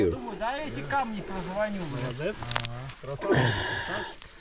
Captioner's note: group chattering